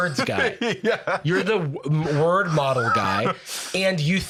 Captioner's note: laughing